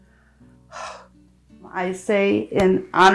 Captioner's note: sighs